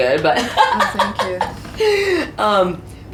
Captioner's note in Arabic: يضحك